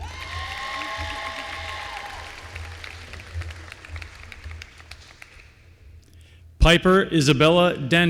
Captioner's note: applause